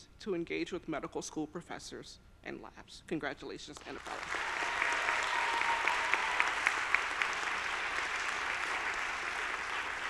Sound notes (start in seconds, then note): 3.9 audience applauding